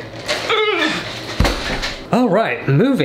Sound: man groans; loud thud

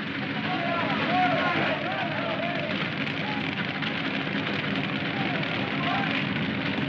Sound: fire crackling; men yelling

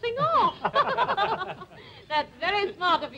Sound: laughter

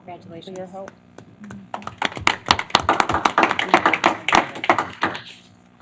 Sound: applause

